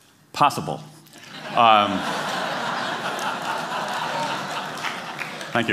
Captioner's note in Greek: Γέλια